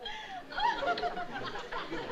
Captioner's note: giggling